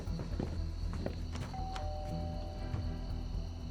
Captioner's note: footsteps; rings doorbell